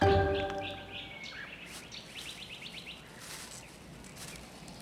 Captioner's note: birds chirping